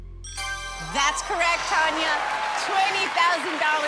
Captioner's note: ding